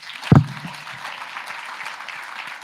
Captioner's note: applause